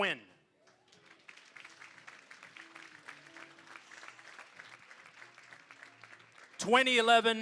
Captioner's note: applause